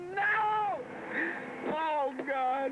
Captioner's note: traffic whirring